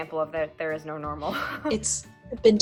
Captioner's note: laughter